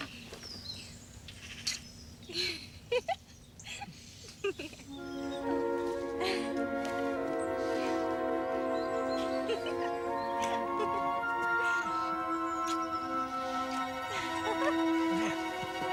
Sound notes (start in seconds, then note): 2.2 girl giggles